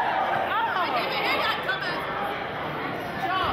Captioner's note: chattering